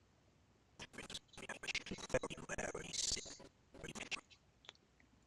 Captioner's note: audio skipping